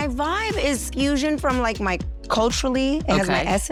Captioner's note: laughing